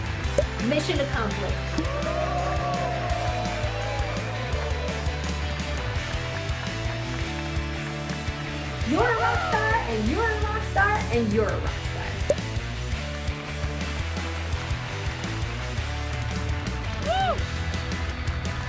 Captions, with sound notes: - Mission accomplished. (Applause) You're a rock star, and you're a rock star, and you're a rock star. - Woo!